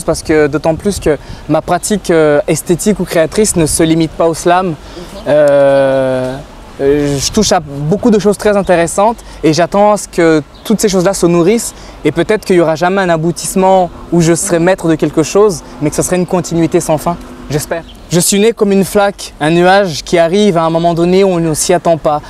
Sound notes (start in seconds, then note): 18.1 French